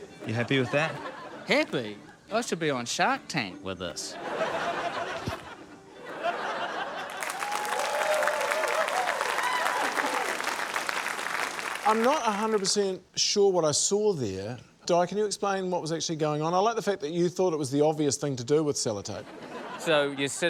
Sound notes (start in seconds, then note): 4.1 audience laughs; 6.9 cheering, applause